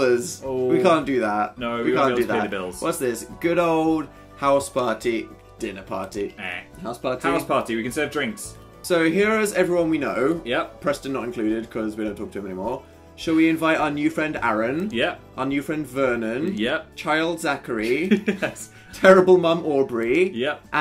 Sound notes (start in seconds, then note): 4.3 in a negtaive voice; 5.9 nope sound; 18.0 laughing